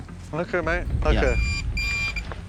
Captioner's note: detector beeps twice